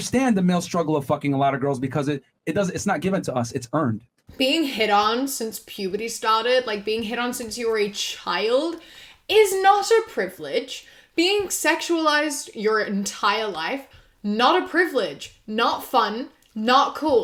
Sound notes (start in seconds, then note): none